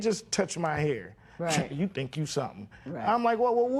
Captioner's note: scoffs